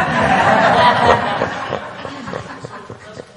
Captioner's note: laughing